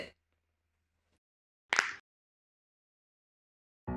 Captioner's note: cracks knuckles